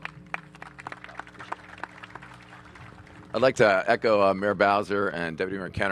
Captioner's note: applause